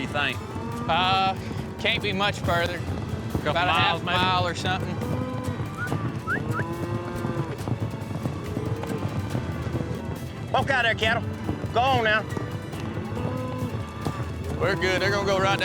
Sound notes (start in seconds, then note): 5.0 whistling, mooing; 12.8 mooing